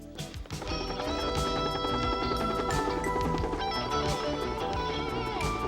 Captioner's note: helicopter whirring